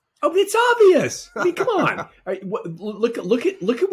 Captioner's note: laughing